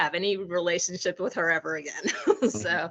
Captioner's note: laughing